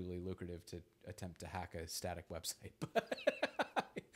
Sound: laughs

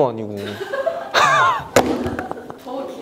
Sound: staff bursts out laughing

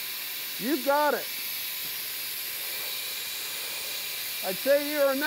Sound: sprayer hissing

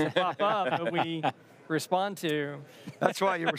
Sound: laughing

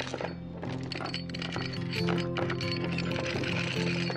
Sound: chain rattling

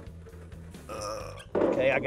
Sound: straining

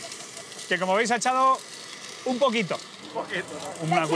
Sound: none

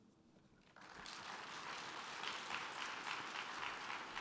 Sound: applause

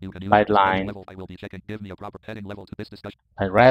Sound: screen reader voice quickly reading line by line

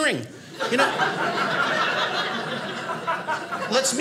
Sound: audience laughing

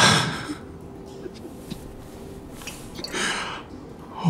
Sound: crying

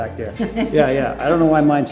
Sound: Cynthia laughs

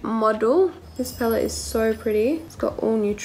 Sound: tinkling

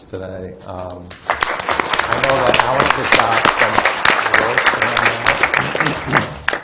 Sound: audience applauds

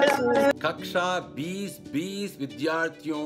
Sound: non-english speech

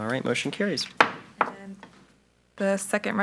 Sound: gavel taps

